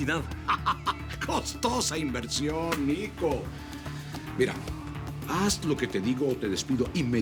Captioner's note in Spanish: Risas